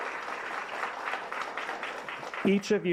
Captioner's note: applause